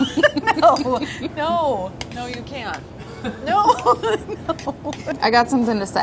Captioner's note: laughter; laughter